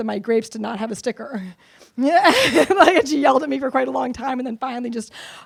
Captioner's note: laughs